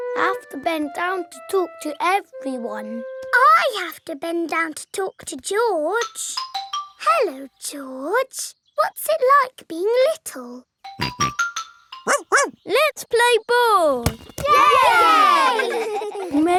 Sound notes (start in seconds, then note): 10.8 snorts; 12.0 barks; 14.4 all cheering and laughing